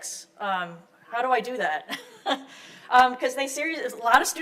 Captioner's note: chuckles